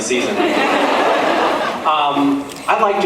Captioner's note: laughs